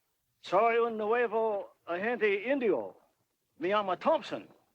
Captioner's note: speaks Spanish